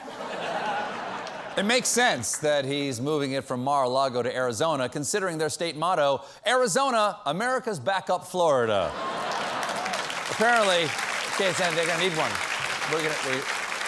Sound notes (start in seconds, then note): 6.2 applause